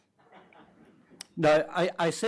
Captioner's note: audience laughs